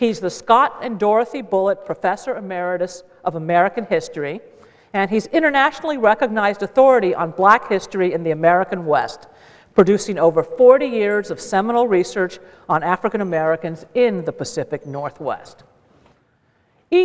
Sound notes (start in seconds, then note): none